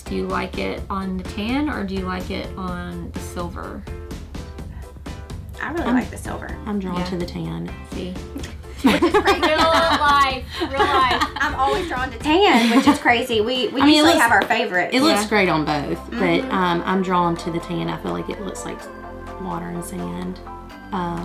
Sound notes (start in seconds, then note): 8.4 laughs